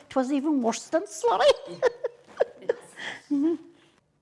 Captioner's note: laughter